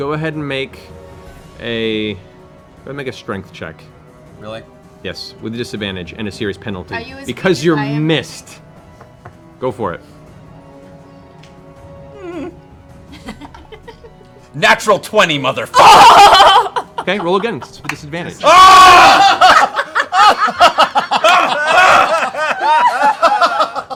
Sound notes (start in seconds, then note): 18.4 screams; 18.9 laughter